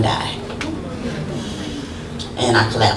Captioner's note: crowd murmurs in sympathy